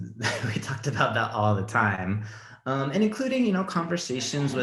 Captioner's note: laughs